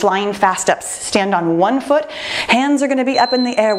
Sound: timer beeping

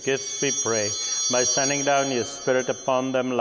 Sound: chimes ringing

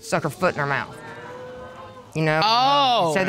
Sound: audience exclaims

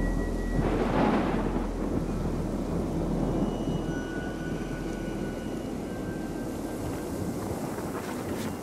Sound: wind whistling

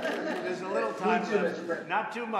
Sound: laughter

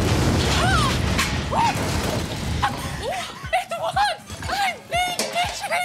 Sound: explosion; shrieking

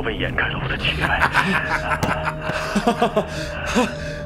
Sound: laughing

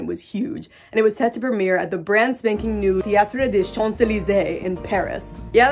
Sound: obnoxious fake French accent; snazzy music

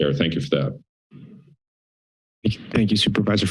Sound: silence

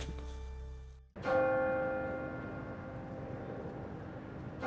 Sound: bell rings

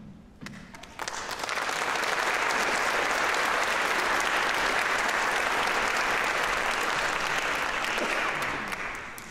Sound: applause

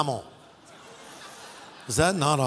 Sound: audience laughing

